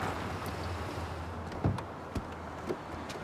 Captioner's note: door open close